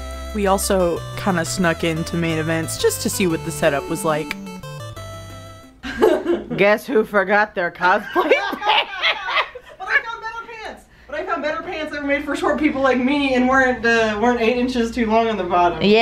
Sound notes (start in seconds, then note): 8.0 laughter